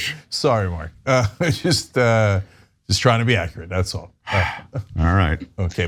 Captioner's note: laugh